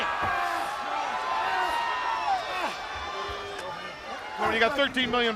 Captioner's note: crowd chatter